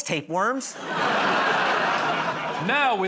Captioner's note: laughter